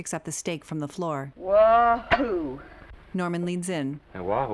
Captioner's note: dejectedly